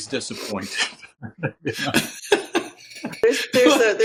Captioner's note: Steve chuckles